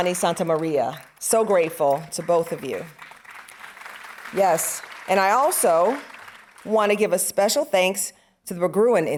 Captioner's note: audience applauding